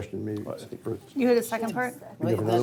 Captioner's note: moderator mumbles